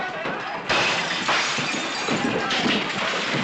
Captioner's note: glass shattering; sound of fight